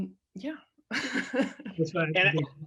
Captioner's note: laughing